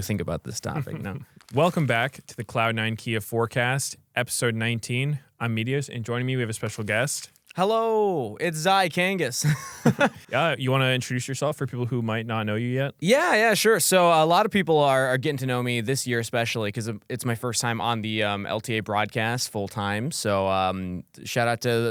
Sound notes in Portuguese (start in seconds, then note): 0.7 risos; 9.4 risos